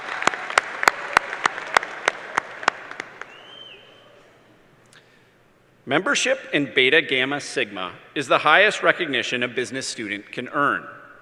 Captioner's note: applause